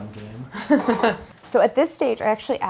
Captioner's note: laughs